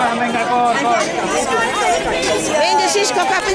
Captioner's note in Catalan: La gent anima